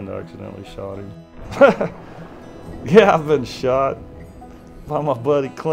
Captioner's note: laughs